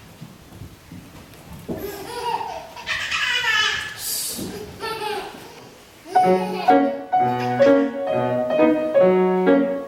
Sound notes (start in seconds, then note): 2.3 laughter; 6.0 acoustic piano music